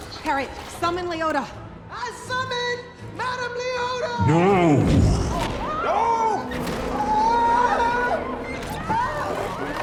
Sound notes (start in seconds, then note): 0.0 yelling; 7.1 yelling